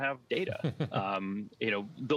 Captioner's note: laughs